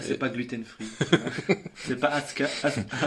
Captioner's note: laughs